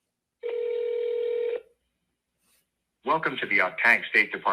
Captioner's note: phone rings